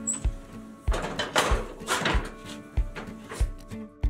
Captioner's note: soft cheerful music; pan clatters